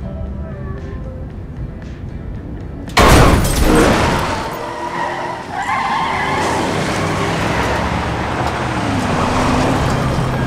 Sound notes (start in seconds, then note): 3.0 boom; 3.4 squealing tires